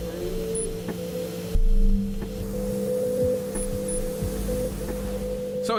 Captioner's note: pipe hissing; mysterious music; tool beeping